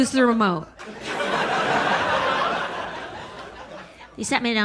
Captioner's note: audience laughs